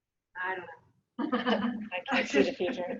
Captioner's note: laughs